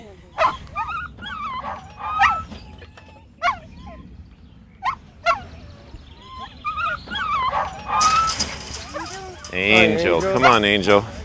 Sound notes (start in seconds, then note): 3.0 dogs barking and whimpering